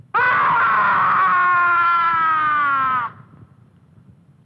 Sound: scream

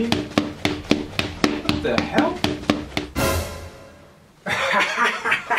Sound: footsteps

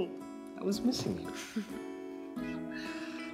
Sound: chuckles

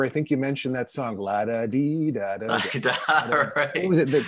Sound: vocalizes

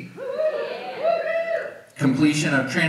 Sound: audience cheers

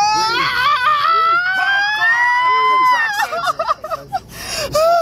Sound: Renee screams

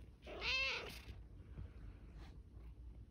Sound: meow

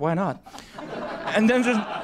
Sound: laugher

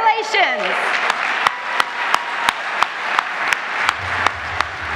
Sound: audience applauding

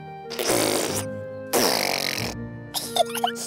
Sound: sputtering; both giggling

